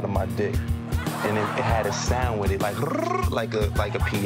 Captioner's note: mimics piano run